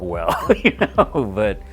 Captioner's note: laughs